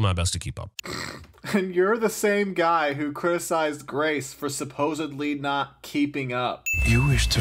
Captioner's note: snickers